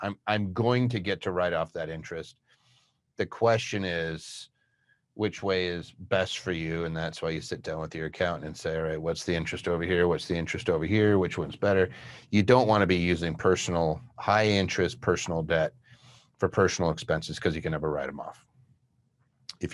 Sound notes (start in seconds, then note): none